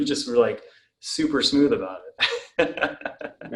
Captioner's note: laughs